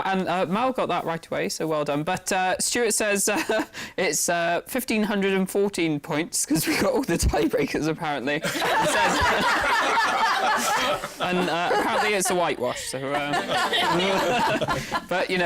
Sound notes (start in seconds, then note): 8.4 laughter